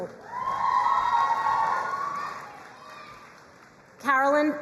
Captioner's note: crowd cheering and applauding